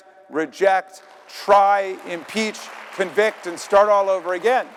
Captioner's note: audience applauding